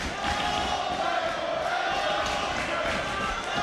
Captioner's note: crowd chants "awesome"